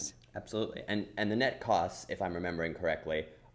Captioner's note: voiceover